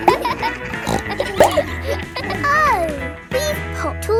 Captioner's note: bleats; neighs; snorts